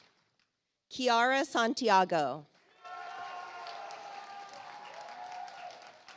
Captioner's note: audience applauds